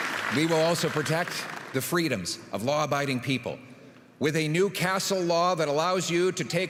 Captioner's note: applause